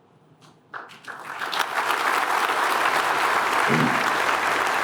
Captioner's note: applause